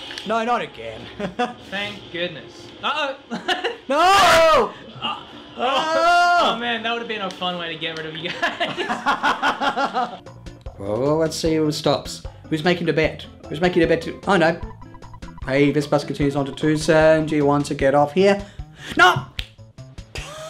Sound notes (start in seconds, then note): 3.1 chuckles; 8.2 laugh